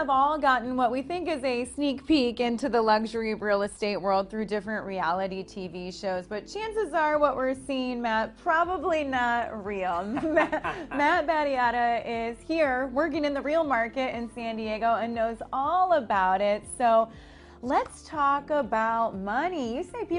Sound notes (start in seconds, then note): 10.0 laughs